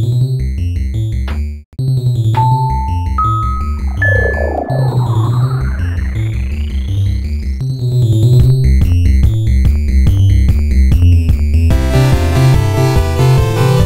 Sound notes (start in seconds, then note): 3.2 sound effect as computer chips morph into neurons